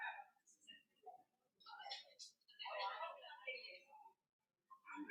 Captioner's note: indistinct crowd chatter